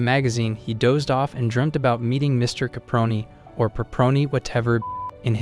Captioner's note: beep